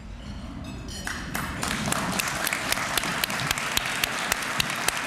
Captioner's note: applause